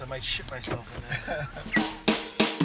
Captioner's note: laughing